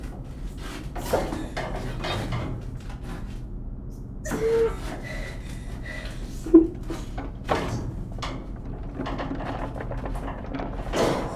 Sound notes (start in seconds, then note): 0.1 metal clanking; 4.3 panting heavily; 4.6 sigh; 7.3 metal rubbing